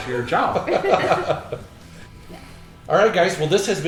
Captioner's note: laughing